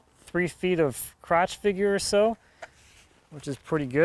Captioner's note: none